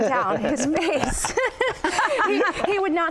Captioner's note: laughter